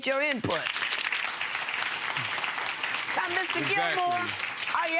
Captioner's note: audience clapping